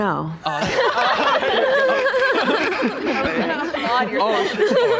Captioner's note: group laughing